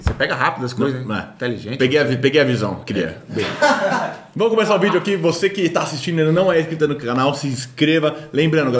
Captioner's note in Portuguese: risos